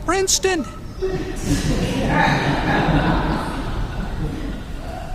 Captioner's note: crowd laughing